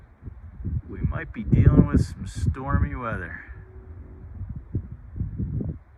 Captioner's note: car noise; car rumbling; water rushing; wind noise